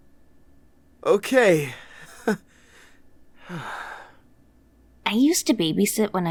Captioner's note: sigh